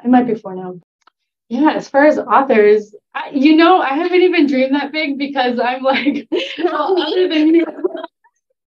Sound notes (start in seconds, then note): 5.9 laughter